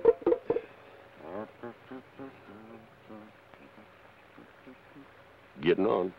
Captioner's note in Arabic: يدندن كارني بلحن جميل